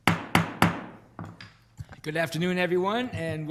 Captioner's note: gavel banging